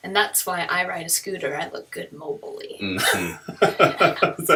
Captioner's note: laughter